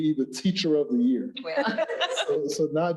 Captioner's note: laughs